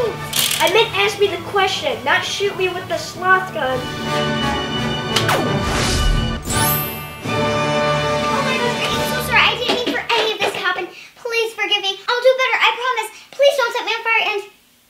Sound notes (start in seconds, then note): 5.0 gunfire